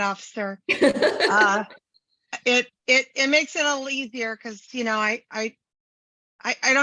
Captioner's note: laugh